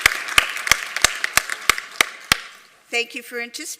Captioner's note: applause